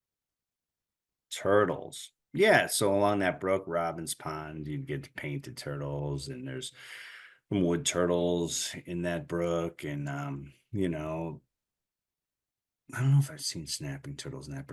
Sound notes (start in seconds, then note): none